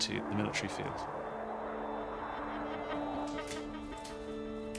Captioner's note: aircraft whooshing